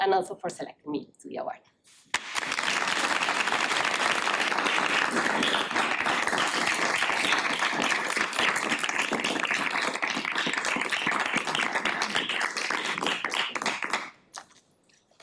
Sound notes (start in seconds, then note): 2.1 applauding